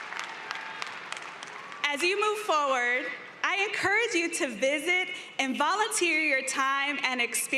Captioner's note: applause